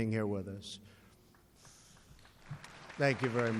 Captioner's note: applause